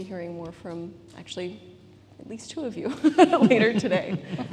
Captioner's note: laughs